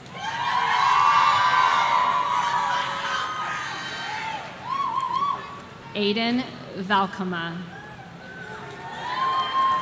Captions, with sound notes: (audience cheering) Aiden Valcama.